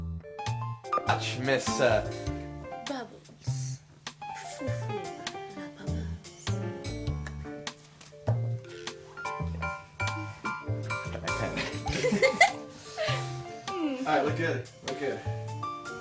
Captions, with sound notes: Miss, uh-- Bubbles Fou Fou la Bubbles. Dropped my pen. [ LAUGHTER ] All right looked good. Looked good.